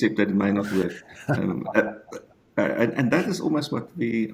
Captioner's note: giggles